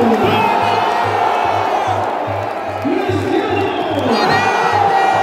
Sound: clap

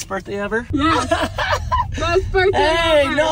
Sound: laughs

